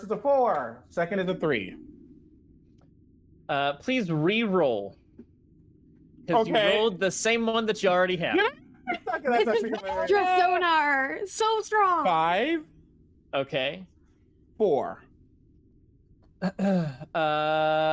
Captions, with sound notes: - First is a 4. Second is a 3. - Please reroll. - Okay... - Because you rolled the same one that you already have. (laughter) - Sonar, so strong. - Five. - Okay. - Four.